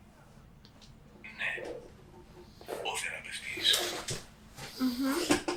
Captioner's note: achmet – artificial male voice